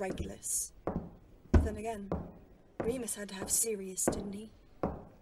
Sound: footsteps

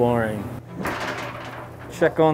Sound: lid creaks

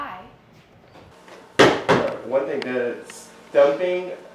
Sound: stomping

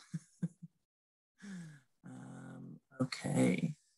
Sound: laughing

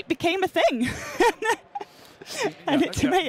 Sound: laughter

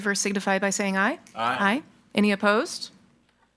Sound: in Unison

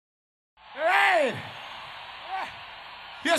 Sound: crowd cheering

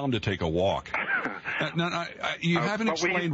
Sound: laughter

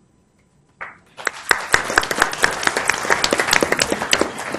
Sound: applause

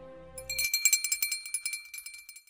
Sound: bell rings

